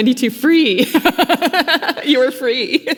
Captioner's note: laughing